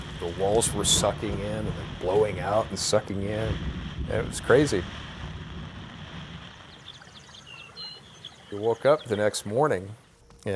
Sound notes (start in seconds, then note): 4.5 thunder rumbling; 5.4 rain splashing